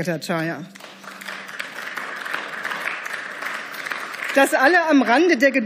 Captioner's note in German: Beifall